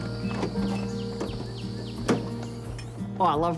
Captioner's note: birds sing